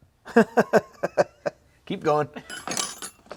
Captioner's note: laughs